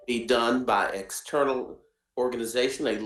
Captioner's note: audio cutting out